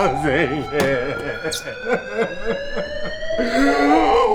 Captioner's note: crying